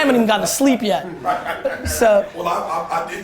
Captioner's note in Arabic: ضحك المجموعة